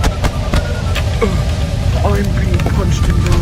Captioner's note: screams of pain